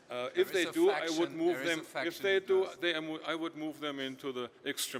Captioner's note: murmurs